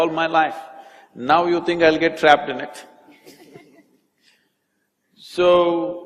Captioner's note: few laugh